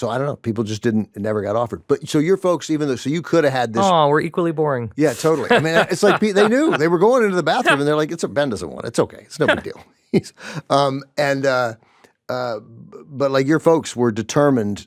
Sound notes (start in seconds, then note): 9.4 chuckles